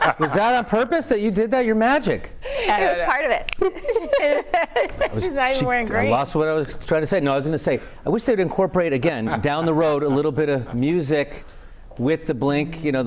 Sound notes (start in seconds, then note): 3.6 laughter